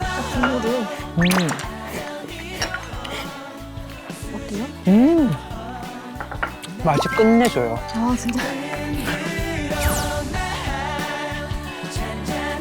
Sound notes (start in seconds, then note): 1.1 slurp